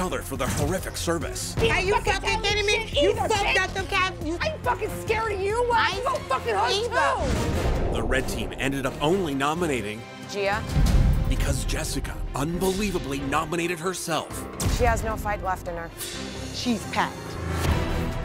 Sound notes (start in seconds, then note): 2.3 shouting